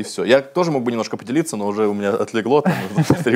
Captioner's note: laughs